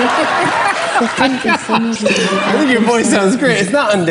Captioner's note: laughing